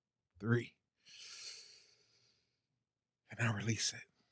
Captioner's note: heavy breathing